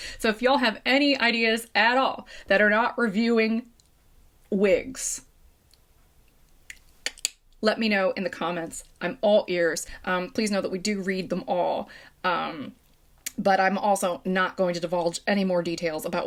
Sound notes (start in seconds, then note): 6.6 tongue clicking